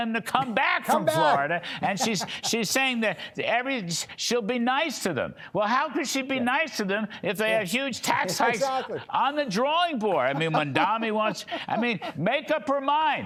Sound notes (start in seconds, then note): 10.0 laughter